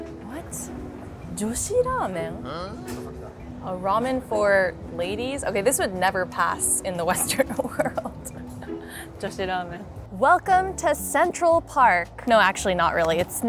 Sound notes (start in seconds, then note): 7.2 chuckles